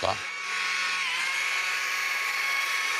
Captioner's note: chainsaw noises